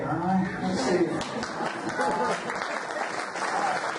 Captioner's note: audience applauds; applause drowns out speaker